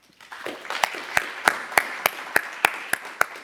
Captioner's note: applause